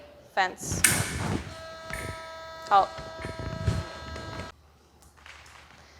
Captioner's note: clicking